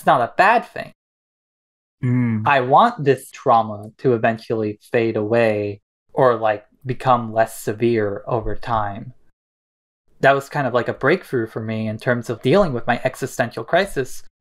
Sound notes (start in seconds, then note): none